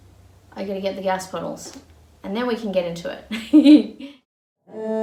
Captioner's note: chuckles